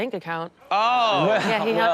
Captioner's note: audience laughs